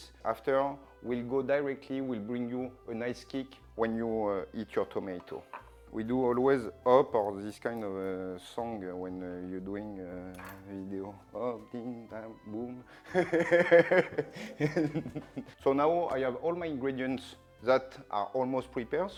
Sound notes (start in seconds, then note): 13.0 laughs